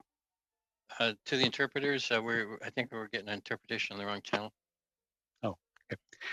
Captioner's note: speaking French